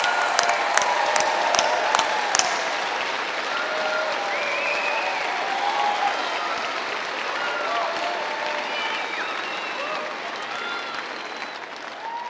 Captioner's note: cheering and applause